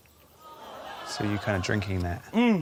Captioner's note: audience groans